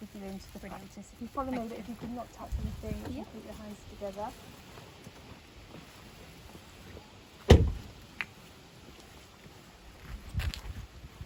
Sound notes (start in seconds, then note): 7.4 car door slams; 8.4 soft footsteps